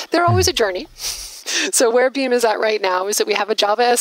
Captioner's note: laughs